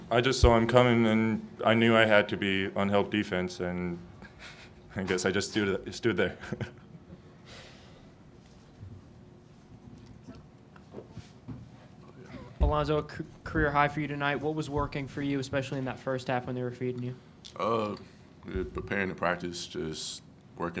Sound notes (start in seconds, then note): 4.2 chuckles